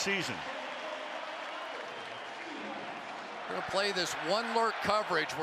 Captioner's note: pa announcement